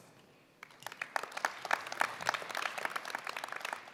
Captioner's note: applause